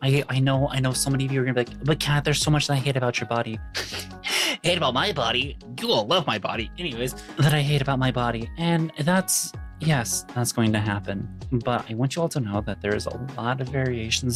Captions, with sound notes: I know so many of you are gonna be like, "But Kat, there's so much that I hate about your body." (laughing) Hate about my body. You all love my body. Anyways, "That I hate about my body." And that's, yes, that's going to happen. But I want you all to know that there is a lot of variations